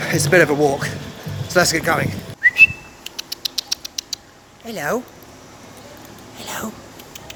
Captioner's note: whistle